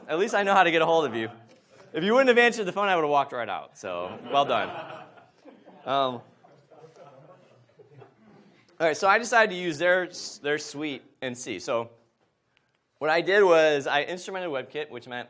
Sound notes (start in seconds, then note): 4.0 audience laughs